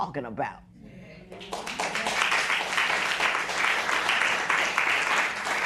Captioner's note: applause